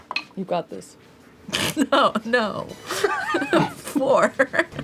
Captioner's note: laughs